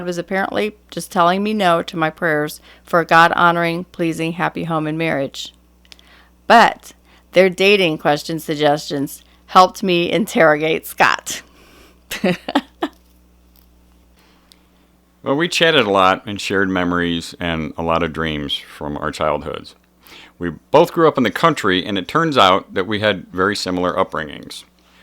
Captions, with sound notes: apparently just telling me "no" to my prayers for a God honoring, pleasing, happy home and marriage. But, their dating question suggestions helped me interrogate Scott!" (laughter) Well, we chatted a lot and shared memories and a lot of dreams from our childhoods. We both grew up in the country, and it turns out that we had very similar upbringings.